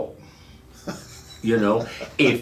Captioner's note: laughing